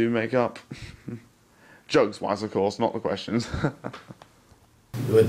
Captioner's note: laughs